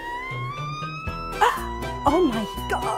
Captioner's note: escalating music; loudly gasping